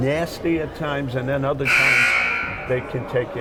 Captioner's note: buzzer buzzing